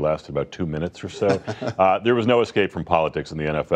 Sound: laughter

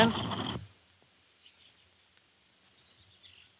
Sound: birds chirping

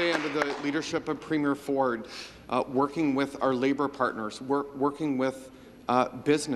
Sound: some Applause

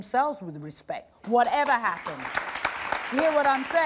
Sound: audience clapping

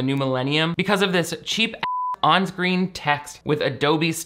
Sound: beep

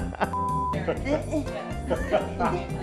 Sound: laughs; beep; laughs

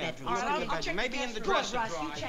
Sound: overlapping chatter

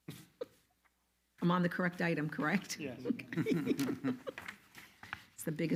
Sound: laugh loudly

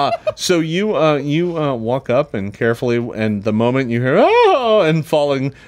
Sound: wail

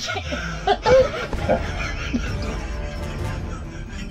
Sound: laughing

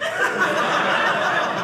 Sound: audience laughing

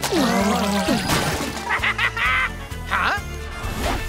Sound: laughing

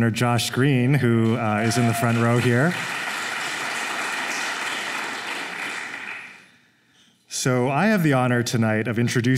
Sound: applause

